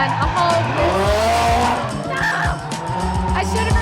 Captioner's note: inaudible screaming